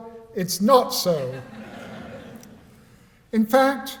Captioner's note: laughter